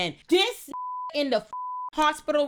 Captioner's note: beep